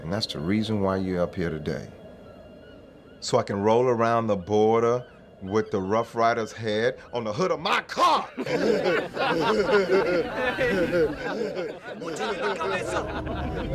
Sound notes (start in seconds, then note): 7.9 gang laughing